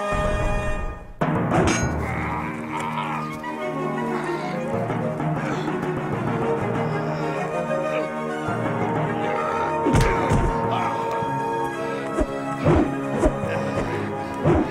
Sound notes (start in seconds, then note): 1.6 dramatic orchestral music; 3.2 metal clanging; 5.1 grunting; 9.9 thuds; 12.8 wooshing